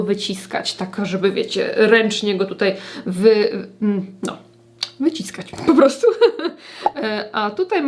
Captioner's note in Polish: śmiech